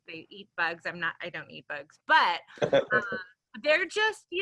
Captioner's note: laughs